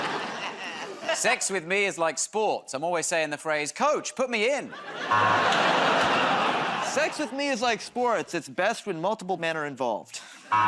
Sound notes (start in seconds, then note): 4.8 laughter, buzzer